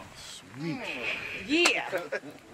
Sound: chuckling

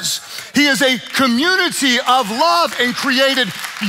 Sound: congregation clapping

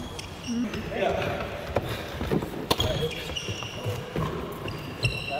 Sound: tennis shoes squeaking

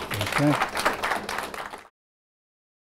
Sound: applause

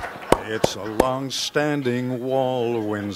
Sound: background laughter

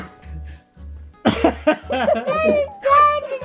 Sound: laughing

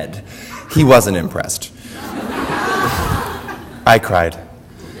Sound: audience laughter

